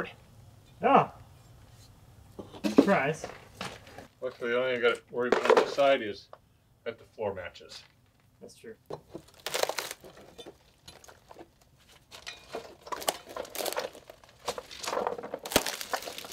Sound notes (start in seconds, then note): 8.9 wood creaking